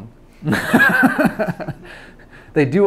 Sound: laughs

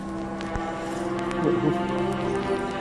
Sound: voice breaks

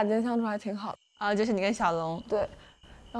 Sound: friends chatting after dinner

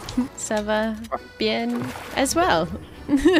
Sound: French

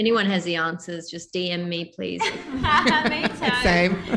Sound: laughs

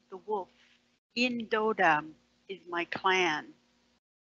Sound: foreign language

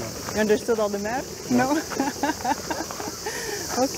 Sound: laughs

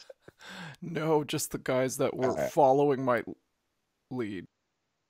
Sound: burps

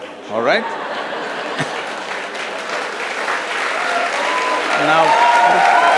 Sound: cheers/Laughter/Applause

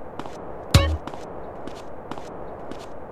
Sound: tap sound

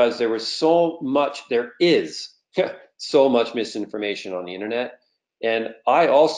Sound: laughs

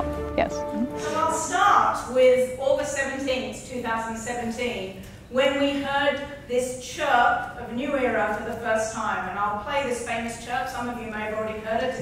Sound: lecturing

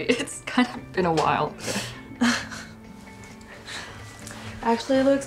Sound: both chuckle

